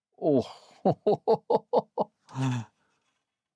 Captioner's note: laughs